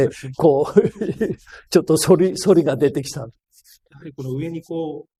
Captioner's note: laughs